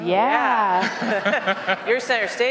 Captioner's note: laughter